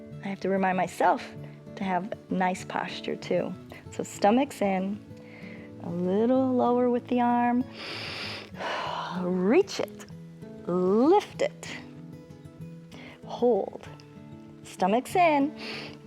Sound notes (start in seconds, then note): 7.7 inhales and exhales